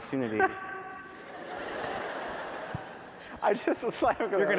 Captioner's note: laughing; laughter